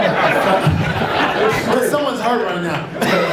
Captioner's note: audience laughs